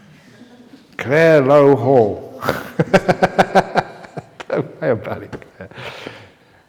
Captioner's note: laughter